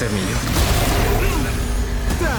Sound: roars

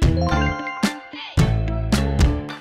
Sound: bling

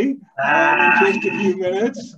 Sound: yelling

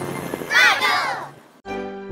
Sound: kids shout

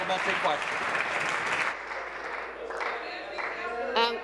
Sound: applause

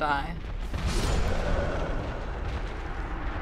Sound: demon roars

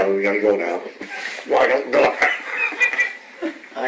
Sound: laughs

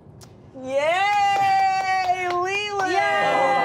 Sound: clapping

